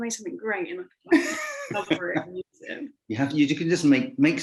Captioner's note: voice muffling; laughing